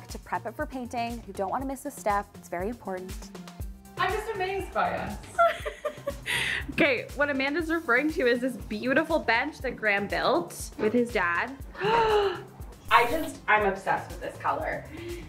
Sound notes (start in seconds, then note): 5.3 laughing; 11.7 gasping